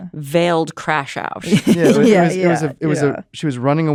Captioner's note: laughs